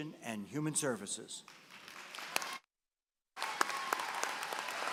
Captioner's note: applause